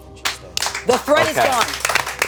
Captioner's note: group applauding